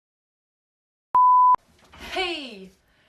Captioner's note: beeps